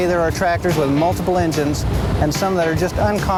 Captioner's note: voiceover